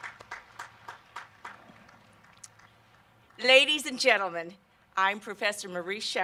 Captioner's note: applause and cheering